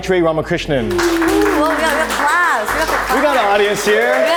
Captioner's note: audience applauding